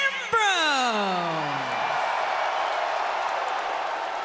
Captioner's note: fans cheering